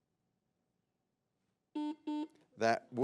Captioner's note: button blips